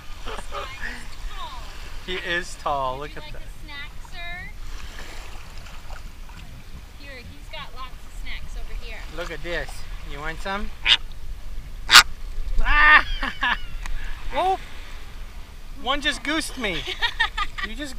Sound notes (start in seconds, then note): 10.8 flamingo squawks; 12.6 laughs; 16.7 laughs